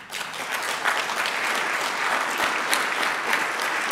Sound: clapping

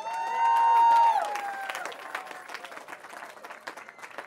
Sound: cheering

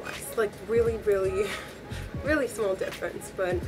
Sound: laughs

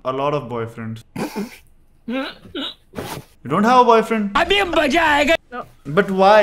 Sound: laughing

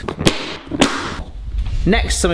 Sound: snapping sounds

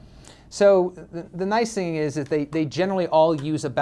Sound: voiceover

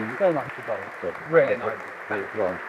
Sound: audience applauding

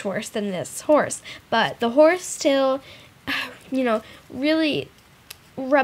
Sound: short, exasperated sigh

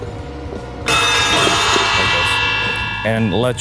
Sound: machine beeps; metal clanking

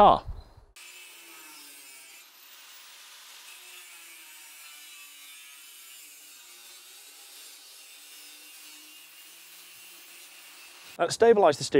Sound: angle grinder

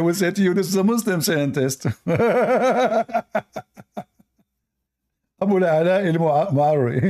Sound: Ketawa

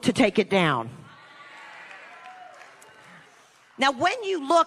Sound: congregation cheering

